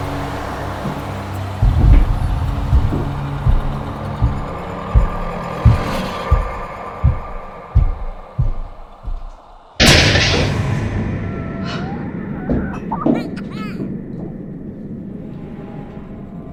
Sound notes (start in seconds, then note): 3.6 footsteps; 9.8 crash; 12.3 child Crying